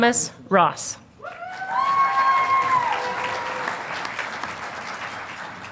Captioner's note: audience applauding